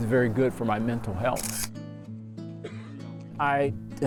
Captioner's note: camera shutter clicking